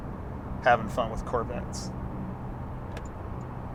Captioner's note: turn signal beeping